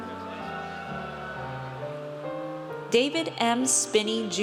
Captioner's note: audience cheers